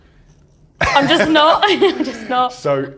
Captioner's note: laughs